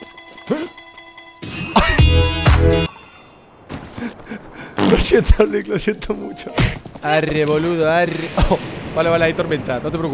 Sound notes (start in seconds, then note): 4.4 laughs